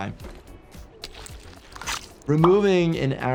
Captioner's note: flesh squelching